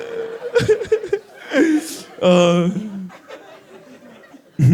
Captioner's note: laughs